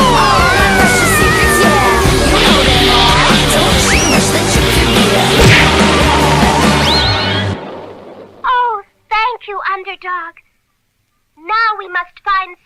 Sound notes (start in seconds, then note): 5.0 crash!